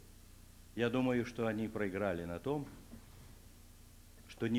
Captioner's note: non-english speech